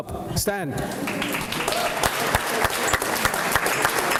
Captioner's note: applause